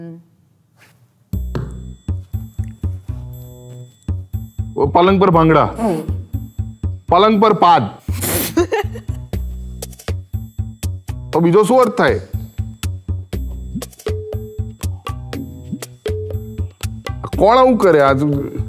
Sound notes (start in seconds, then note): 5.7 laughs with a fart sound; 8.4 laughs